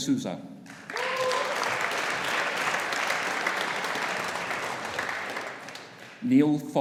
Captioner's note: audience applauding; audience cheering